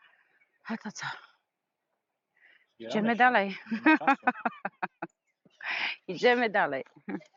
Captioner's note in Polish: śmiech